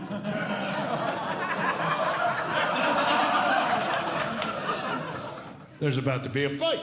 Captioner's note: audience Laughing